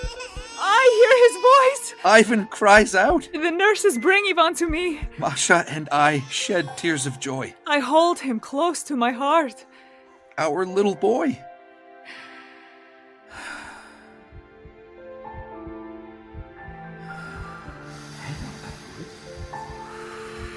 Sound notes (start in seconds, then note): 0.0 baby crying; 12.3 deep breathing over a heartbeat